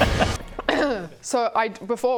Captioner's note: clears throat